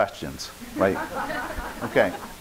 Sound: audience laughing

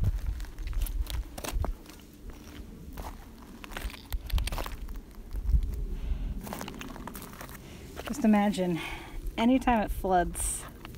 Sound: crunching

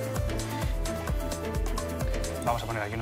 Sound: none

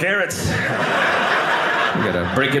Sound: audience laughing

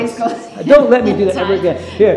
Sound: laughs

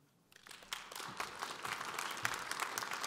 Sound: audience applause

